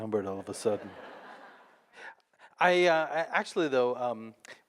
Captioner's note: audience laughing